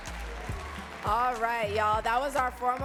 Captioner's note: audience claps